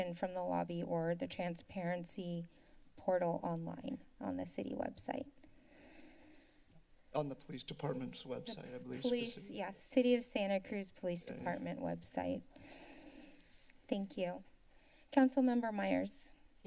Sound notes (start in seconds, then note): 5.6 inhales